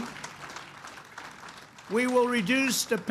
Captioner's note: applause